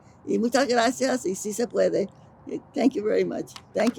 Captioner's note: speaking in foreign language